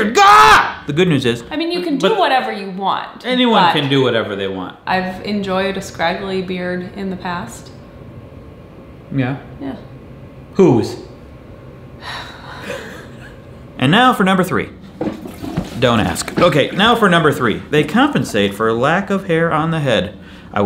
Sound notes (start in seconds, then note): 12.4 both laughing; 14.8 toilet flushing